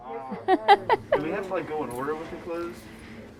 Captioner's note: laughs